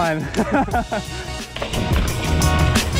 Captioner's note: laughs